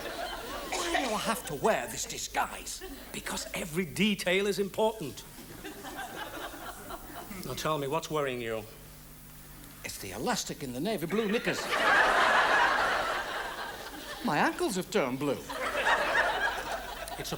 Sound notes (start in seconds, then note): 11.1 audience laughs